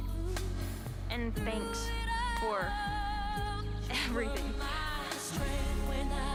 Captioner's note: laughs